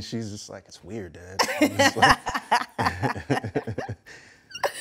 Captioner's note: laughs